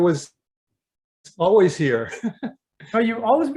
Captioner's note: chuckles